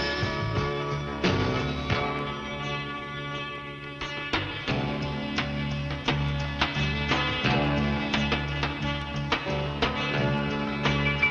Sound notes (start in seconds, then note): none